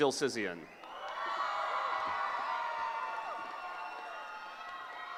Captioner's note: cheering